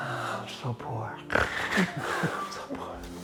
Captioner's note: snoring